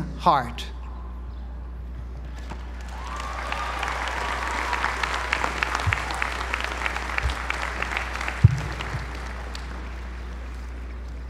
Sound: applause

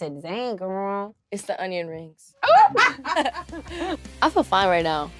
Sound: laughing

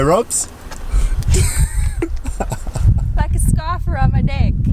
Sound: laughing

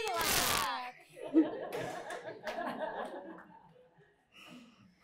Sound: laughter

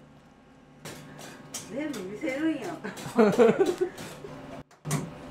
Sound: laughter

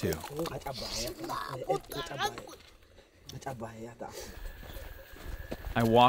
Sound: men speaking foreign language

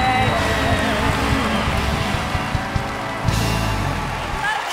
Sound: crowd applauds

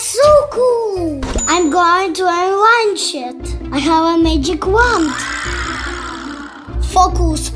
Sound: wooooow

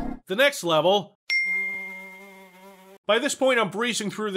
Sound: ding

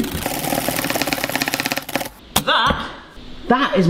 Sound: whisk clacking at high speed

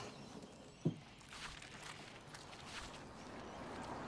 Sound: birds chirp

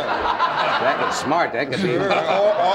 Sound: audience laughing

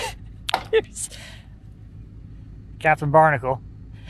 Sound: laughs

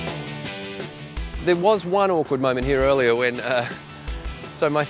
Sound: laughs

